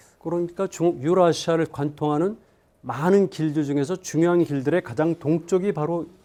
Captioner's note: speaking in Korean